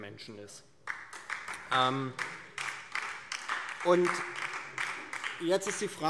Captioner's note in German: Beifall DIE LINKE